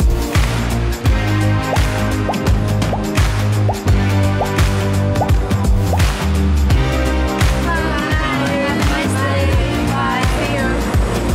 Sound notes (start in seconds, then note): 1.9 popping; 6.8 upbeat music